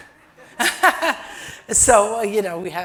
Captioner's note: laugh